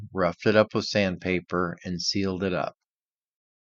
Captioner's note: none